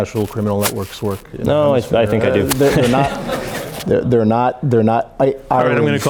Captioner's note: laughter